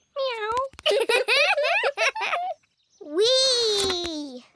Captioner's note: both giggle